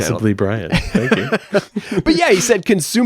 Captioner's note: laughs